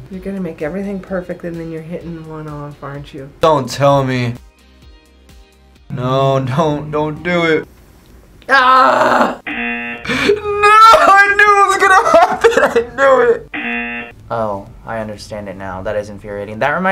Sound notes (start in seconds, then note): 9.4 buzzer rings; 13.5 buzzer rings